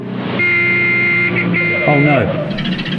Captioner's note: truck horn blaring